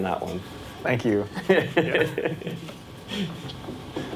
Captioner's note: laughs